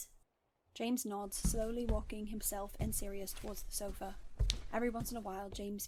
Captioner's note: footsteps